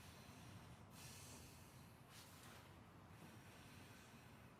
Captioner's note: Alex breathing heavily